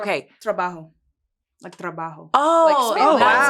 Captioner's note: speaks foreign language